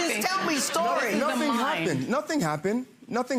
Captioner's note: audience laughs